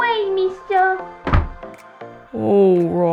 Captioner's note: door Slam